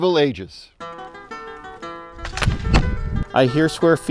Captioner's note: arrow whooshes